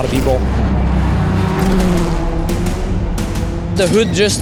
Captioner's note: engine revving